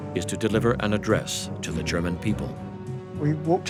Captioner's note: none